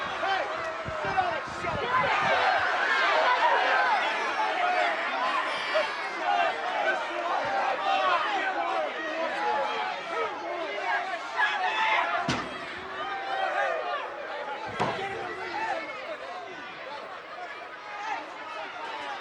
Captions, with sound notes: Hey, sit on it. Shut up, fat boy. (crowd yelling) (metal clangs) Hey, boy. Get in the ring now. (crowd yelling)